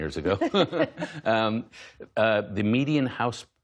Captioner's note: laughter